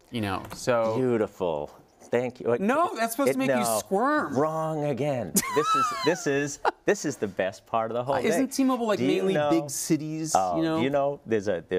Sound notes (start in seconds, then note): 5.4 laugh